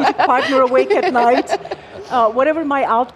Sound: laugh

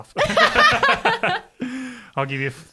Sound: laughing

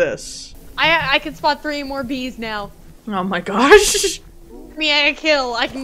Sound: chuckles

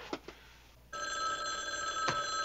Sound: phone ringing

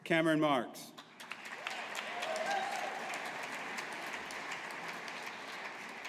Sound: audience applauding

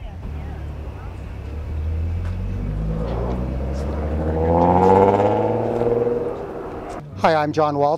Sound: boat motor roars

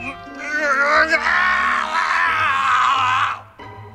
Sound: shouting

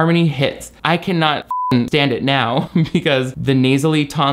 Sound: beep

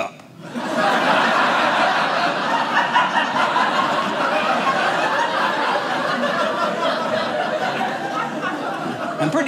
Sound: audience laughing

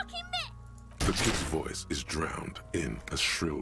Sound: gunshot

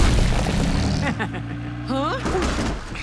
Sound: laughing

